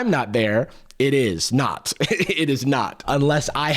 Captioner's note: chuckles